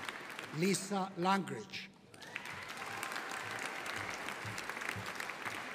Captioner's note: audience applauding